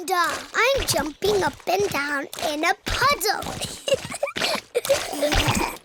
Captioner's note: snorts; giggling